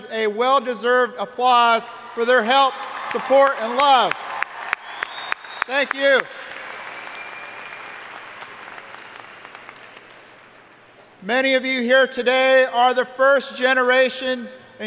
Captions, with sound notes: a well deserved applause for their help, support, and love. (audience cheering and applauding) Thank you! Many of you here today are the first generation